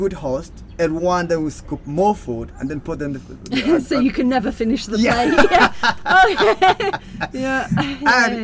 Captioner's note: laughing